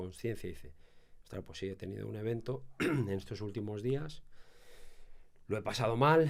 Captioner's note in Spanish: carraspeo